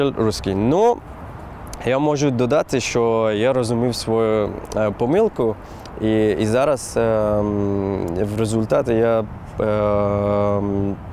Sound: starts speaking in Ukrainian

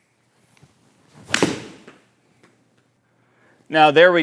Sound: ball thuds

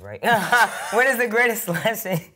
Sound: both laughing

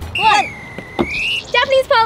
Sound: whistle blows

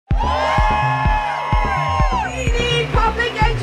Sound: crowd Cheering

